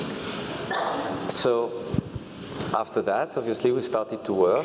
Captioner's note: laugh